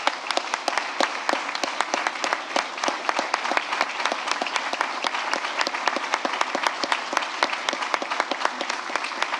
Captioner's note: applause